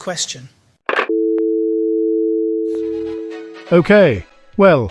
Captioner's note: hangs up